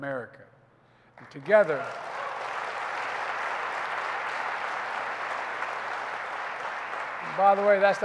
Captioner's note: applause